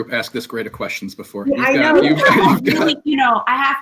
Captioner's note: laughs